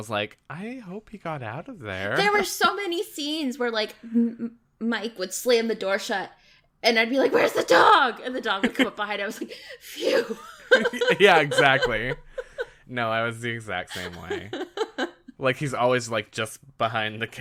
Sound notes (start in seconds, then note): 10.0 laughs